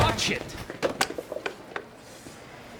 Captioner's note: clattering